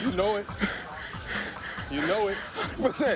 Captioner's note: panting heavily